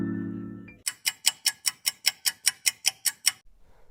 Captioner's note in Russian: тиканье часов